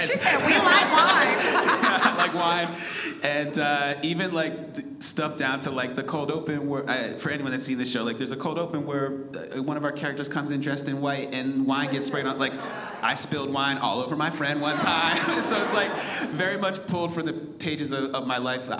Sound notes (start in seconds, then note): 0.0 laughs; 1.6 all laugh; 14.5 audience laughs